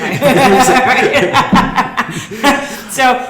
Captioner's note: laughing